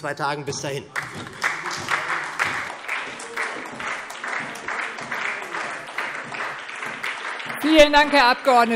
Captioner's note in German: Beifall SPD